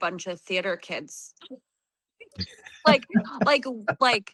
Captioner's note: laughter